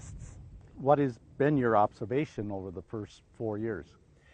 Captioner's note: voiceover